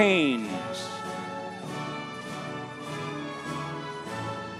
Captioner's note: audience cheering